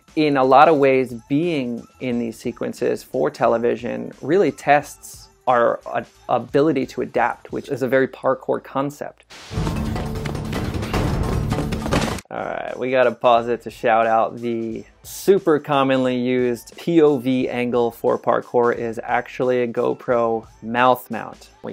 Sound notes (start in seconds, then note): 9.0 static noise; 9.4 dramatic music